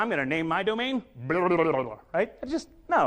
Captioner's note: speaks gibberish